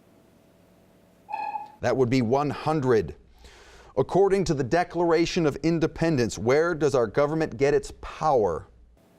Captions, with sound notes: (dinging) That would be 100. According to the Declaration of Independence, where does our government get its power?